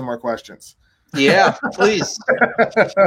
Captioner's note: laughs